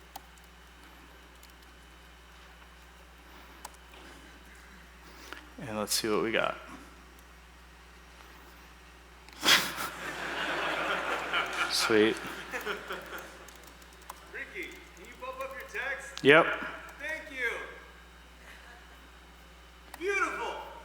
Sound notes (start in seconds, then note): 9.4 laughter